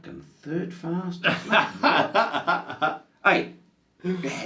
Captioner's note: laughs